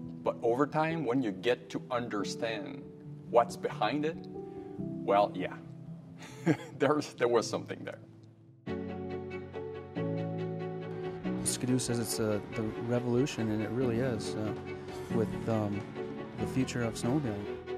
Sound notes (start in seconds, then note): 6.2 laughs; 8.7 tense music